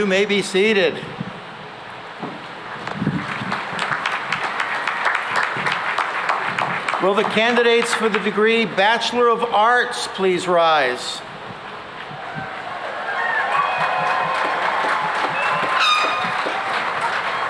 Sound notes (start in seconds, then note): 2.8 applause; 12.1 cheering and applause